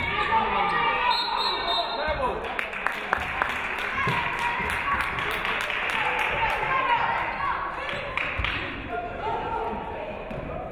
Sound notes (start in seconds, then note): 1.0 referee whistles; 2.3 audience clapping